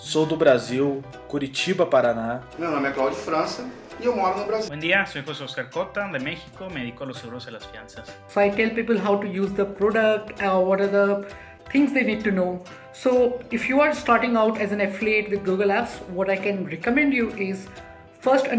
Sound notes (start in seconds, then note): 2.5 speaking portuguese; 4.5 speaking spanish